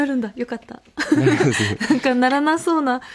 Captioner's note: laughs